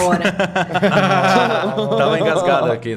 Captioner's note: everyone laughs